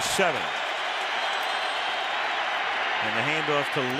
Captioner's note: crowd roars